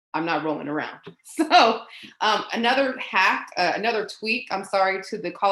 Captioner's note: laughs